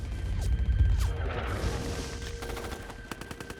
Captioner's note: gun shots